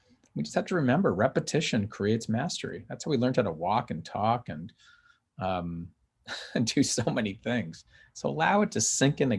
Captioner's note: chuckles